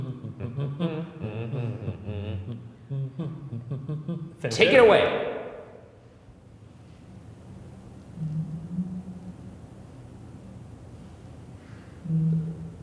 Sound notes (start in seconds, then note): 0.0 Ryan and Shane humming; 8.3 muffled humming